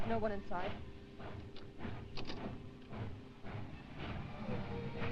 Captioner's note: train chugging